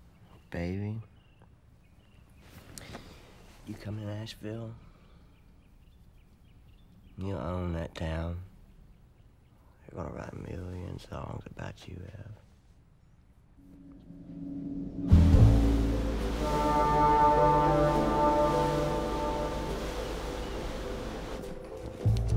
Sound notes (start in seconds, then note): 16.4 horn blares; 19.3 light jazz music